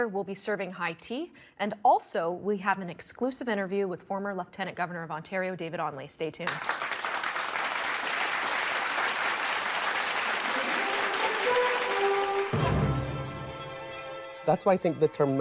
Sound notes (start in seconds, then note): 3.6 audience applauding; 7.5 exciting music